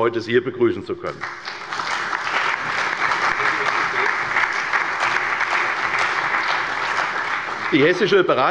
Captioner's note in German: Allgemeiner Beifall